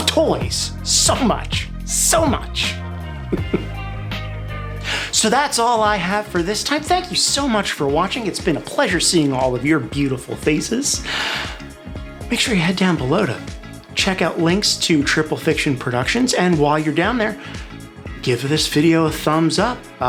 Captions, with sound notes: I LOVE TOYS SO MUCH! SO MUCH! [chuckle] So, that's all I have for this time. Thank you so much for watching. It's been a pleasure seeing all of your beautiful faces. Make sure you head down below to check out links for Triple-Fiction Productions, and while you're down there,